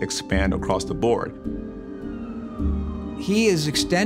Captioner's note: sirens wailing in distance